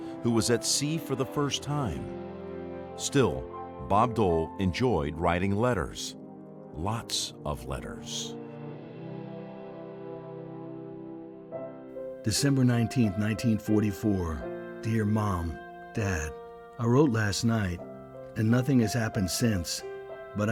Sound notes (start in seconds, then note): 9.3 light instrumental music; 12.5 voiceover